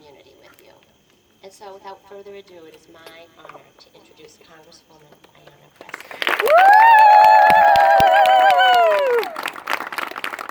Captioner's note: applause and cheering; applause continues